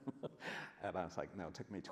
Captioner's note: laughs